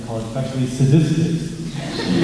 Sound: laughter

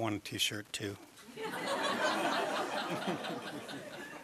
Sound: laughter

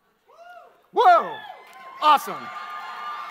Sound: audience cheers

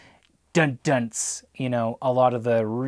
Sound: imitating guitar

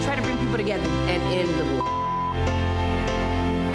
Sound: beep

